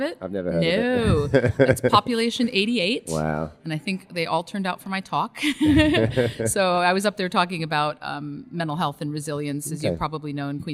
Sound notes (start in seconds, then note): 5.4 both laugh